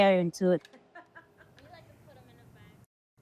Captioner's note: laughs